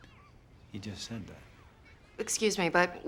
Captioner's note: whispering